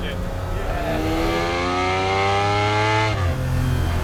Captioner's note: engine roars